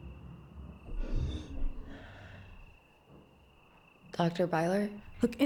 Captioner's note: object creaking